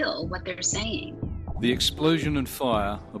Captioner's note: soundbite of archived recording